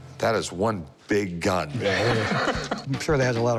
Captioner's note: laughs